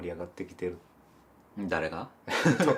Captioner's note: laugh